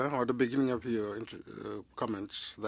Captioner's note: speaking French